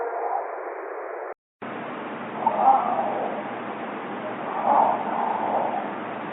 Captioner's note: creature continues vocalizing